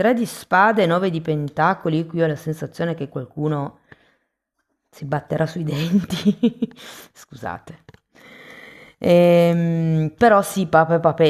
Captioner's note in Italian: risate